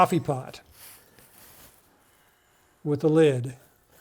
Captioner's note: paper rustling